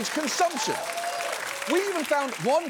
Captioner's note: audience laughs, applauds